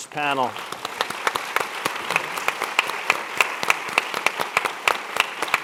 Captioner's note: audience and panelists clapping